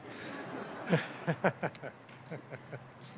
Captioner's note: laughing